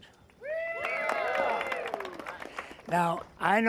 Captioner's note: crowd cheering